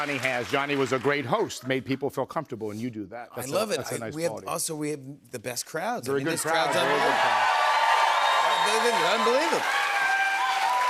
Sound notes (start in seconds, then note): 6.4 cheers and applause